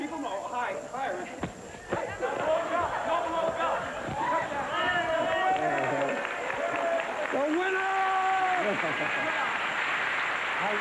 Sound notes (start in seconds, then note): 2.0 audience cheering